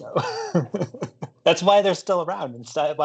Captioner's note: chuckles